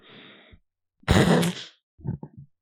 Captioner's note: loud snort